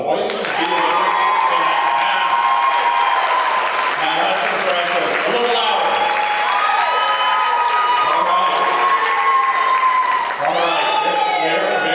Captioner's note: cheering & Applause